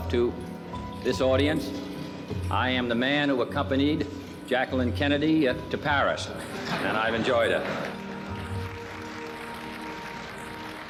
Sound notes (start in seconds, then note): 6.5 laughter; 6.7 people applauding